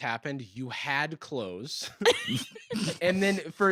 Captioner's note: laugh